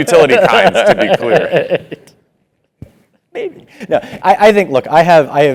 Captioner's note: laugh